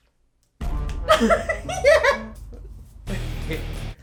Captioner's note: laughing; rock music